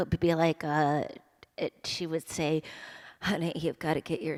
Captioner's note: imitating mother